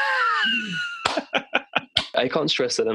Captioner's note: giggle; laughter